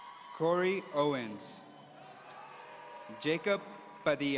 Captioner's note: audience cheering